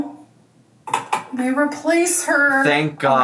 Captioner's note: bottle clacking